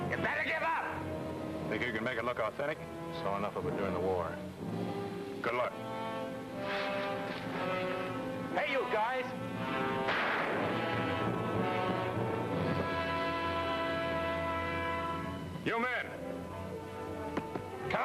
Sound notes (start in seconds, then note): 9.9 gunshots bang; 10.4 tense music